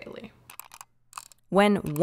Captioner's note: keyboard clicking